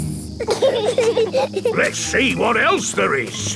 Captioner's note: bees buzzing